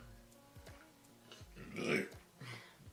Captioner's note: burp